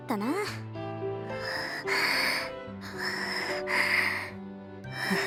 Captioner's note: strained breathing